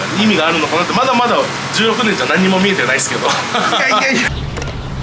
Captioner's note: laughs